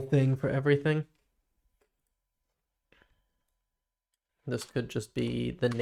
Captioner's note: silence